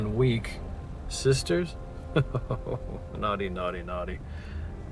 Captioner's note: laughing